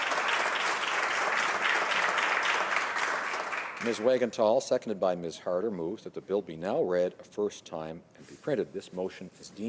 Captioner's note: applause